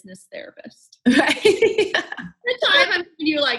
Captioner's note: both laughing